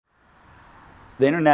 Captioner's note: birds singing